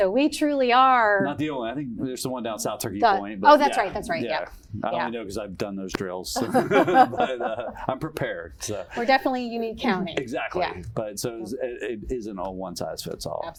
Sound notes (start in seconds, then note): 6.4 laugh